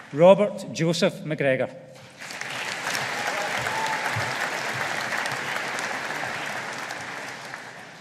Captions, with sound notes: Robert Jozef McGregor. (AUDIENCE APPLAUDING)